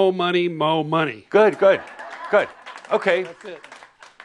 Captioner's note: laughter